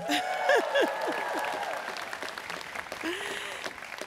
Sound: students cheering

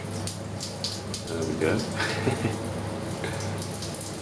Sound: laughs

